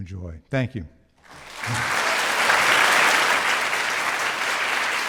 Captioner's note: audience applauds